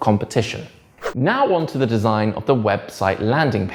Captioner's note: page whips